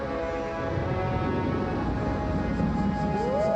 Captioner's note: thunder rumbling